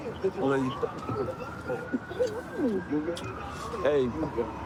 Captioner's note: kissing noises